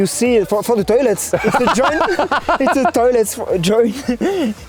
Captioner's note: laughing